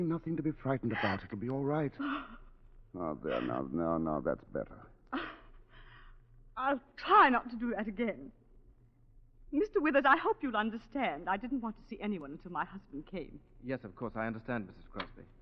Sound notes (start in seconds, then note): 2.0 gasps; 5.7 laughs